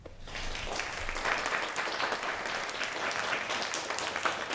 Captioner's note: audience applauding